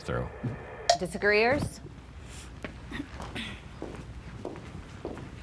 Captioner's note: footsteps clomping